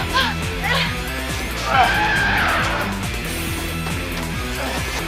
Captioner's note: animal cry